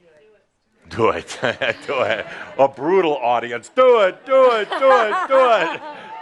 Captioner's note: chuckles